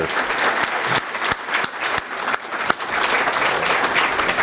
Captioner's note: applause